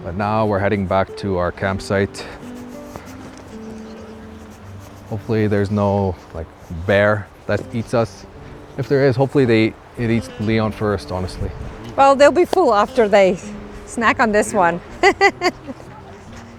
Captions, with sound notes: But now we're heading back to our campsite. Hopefully there's no bear that eats us. If there is, hopefully it eats Leon first, honestly. Well, they'll be full after they snack on this one. [laughs]